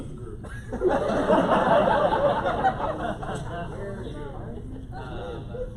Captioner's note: laughter